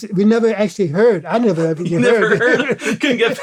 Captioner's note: laughter